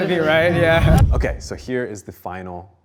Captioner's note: group laughs